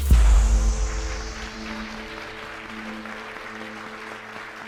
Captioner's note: audience clapping